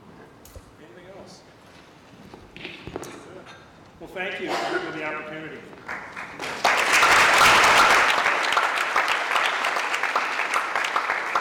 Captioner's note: applause